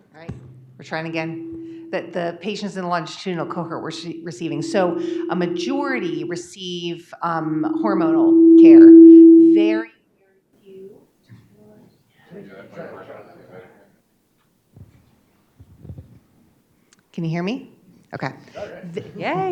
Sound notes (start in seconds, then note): 9.1 sound glitches